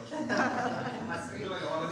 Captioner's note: laughing